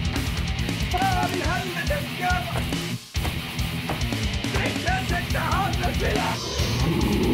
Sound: general norwegian swearing

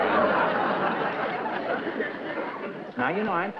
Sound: laughter

